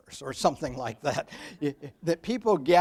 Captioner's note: audience laughs